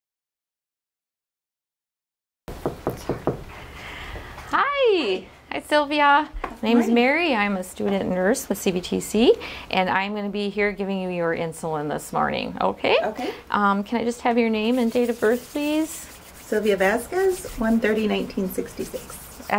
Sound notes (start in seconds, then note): 2.5 door knocking